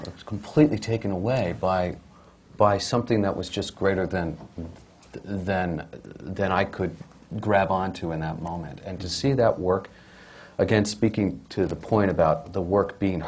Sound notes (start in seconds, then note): none